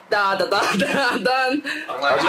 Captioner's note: laughs